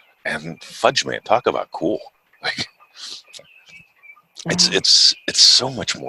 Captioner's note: chuckles